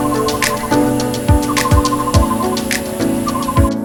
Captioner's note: bird chirping